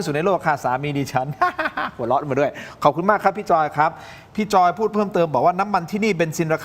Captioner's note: laughs